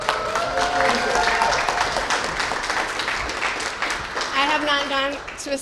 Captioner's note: cheers and applause